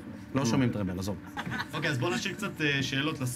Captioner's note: laughs